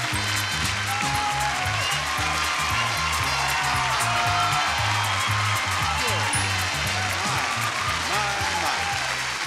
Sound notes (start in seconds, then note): 0.0 theme music continues; 3.3 audience applauding